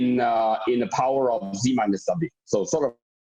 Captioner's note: murmur